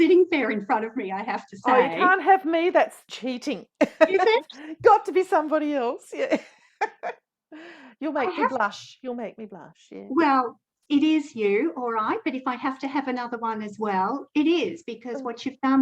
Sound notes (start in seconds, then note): 6.3 both laugh